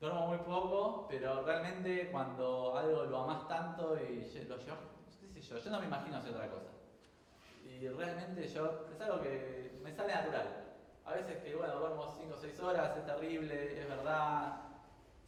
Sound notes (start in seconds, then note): none